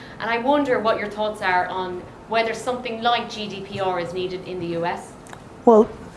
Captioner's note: none